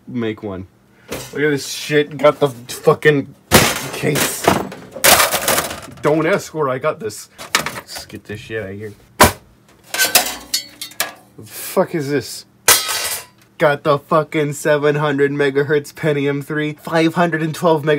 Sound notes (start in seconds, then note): 3.5 side panel falls loudly; 3.5 crash